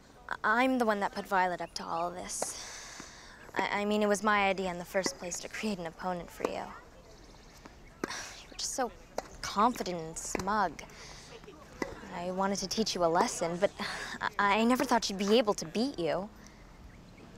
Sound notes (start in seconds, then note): none